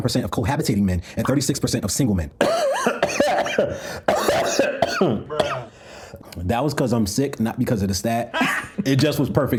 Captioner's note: coughs